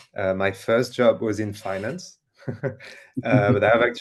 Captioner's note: chuckles